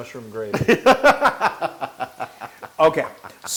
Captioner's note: laugh